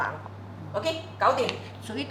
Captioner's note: Cantonese